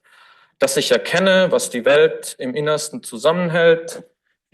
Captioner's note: foreign language